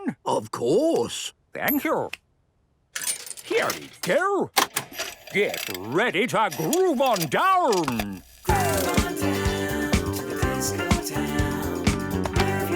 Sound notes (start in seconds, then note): 6.4 clicks, whirring; 8.4 disco music plays